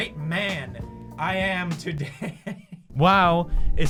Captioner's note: laughter